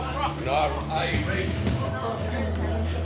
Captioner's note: customers chatting; tense music continues